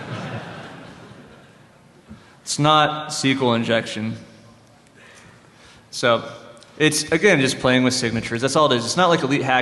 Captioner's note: laughter